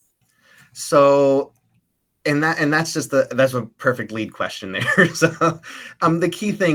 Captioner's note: laughs